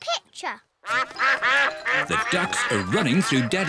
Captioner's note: quacking